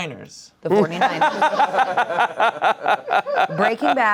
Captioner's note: laughing